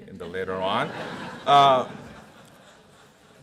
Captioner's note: audience laughs